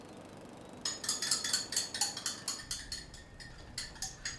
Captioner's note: clanging